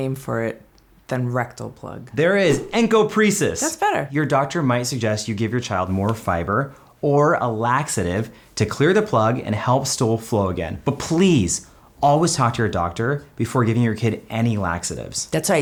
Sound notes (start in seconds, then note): 2.5 air whooshing